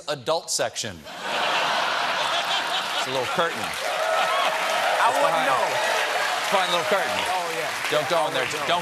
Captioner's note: laughter